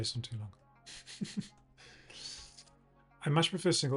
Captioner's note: laughs